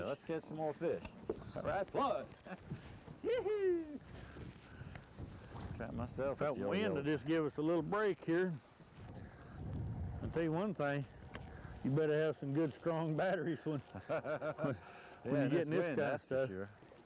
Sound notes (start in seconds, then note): 13.8 laughter